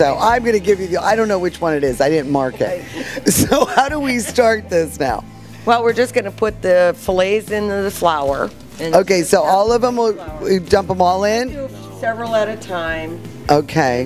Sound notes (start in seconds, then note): 2.2 women laughing